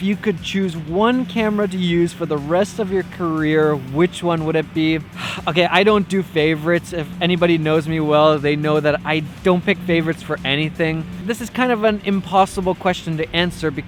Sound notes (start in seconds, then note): 5.2 sigh